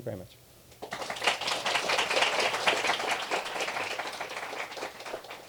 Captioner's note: applause